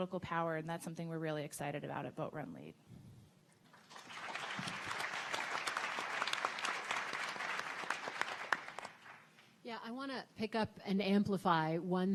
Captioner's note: audience clapping